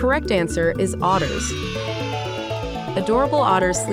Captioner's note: children cheering